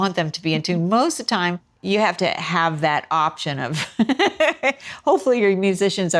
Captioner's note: laughter